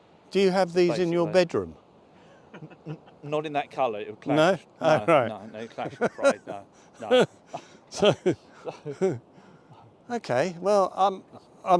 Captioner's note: laughter